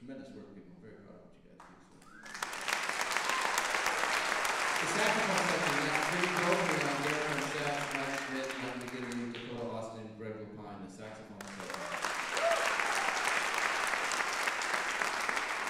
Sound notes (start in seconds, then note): 4.7 applause drowns speech